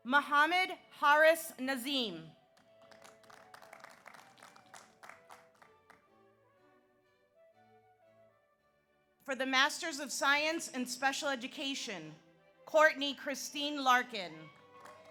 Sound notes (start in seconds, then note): 2.5 audience applauds